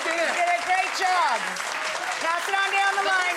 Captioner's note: applause